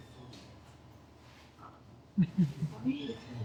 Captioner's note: chuckles